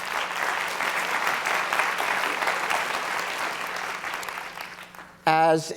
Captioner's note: applause